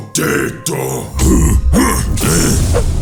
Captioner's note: o'chunks grunts; bowser retches; o'chunks grunts